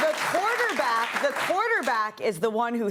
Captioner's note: applause